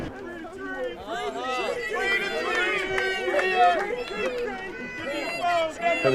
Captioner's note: people chanting and yelling